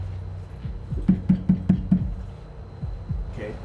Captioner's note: door rattling; knocking on window